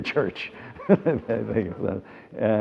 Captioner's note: laughs